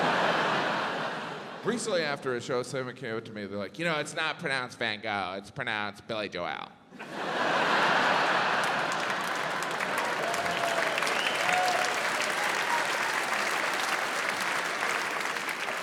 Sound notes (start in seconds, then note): 0.0 audience laughs; 8.3 audience laughs; 10.5 audience cheering, applauding